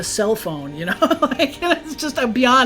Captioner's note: laughs